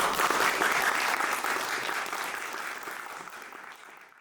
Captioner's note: people clapping